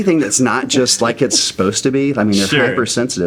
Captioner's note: laughing